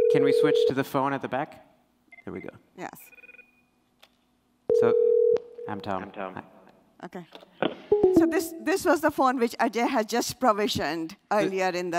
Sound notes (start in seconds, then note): 6.0 echo; 8.0 notification chime